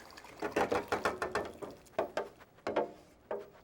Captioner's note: pan clattering